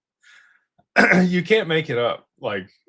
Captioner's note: clears throat